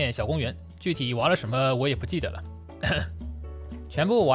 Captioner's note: cough